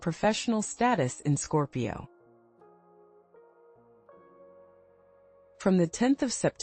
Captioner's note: pause